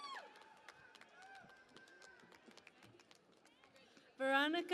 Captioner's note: cheering and Applause